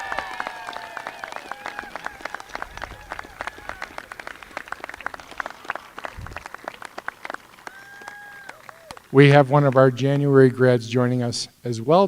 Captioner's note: applause